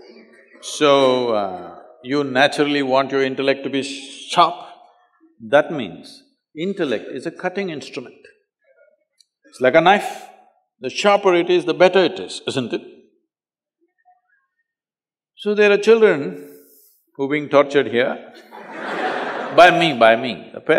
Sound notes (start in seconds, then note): 18.3 laughter